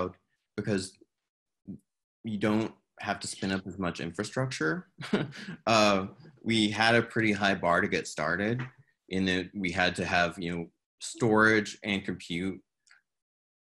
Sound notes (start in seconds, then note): 4.9 chuckles